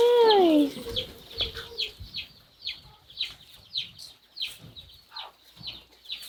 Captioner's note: birds chirping